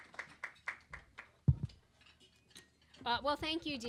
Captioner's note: applause